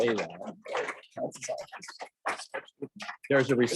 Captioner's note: chattering